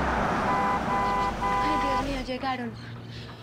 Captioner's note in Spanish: Bocina